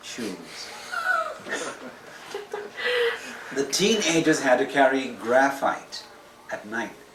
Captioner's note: laughter